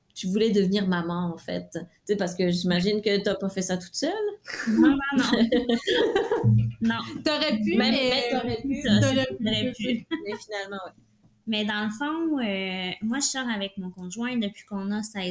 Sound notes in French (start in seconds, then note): 4.5 Rires